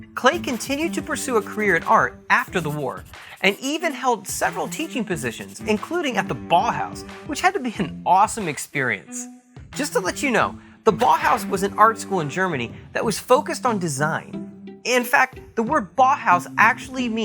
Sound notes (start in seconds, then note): 10.7 swish